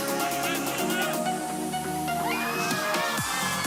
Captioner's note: crowd cheering; upbeat music